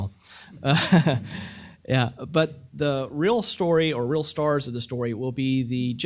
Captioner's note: laugh